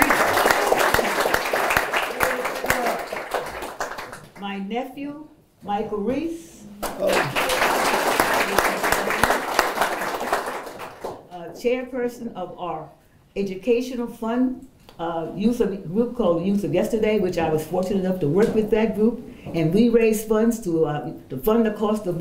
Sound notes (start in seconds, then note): 0.0 applause; 6.8 applause